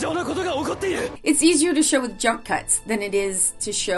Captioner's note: foreign language 00:01:02